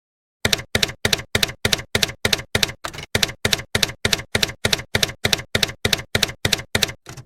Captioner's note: typewriter keys clacking